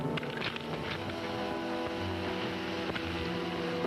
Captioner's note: ground cracking